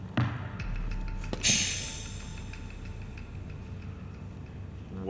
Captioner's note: air releasing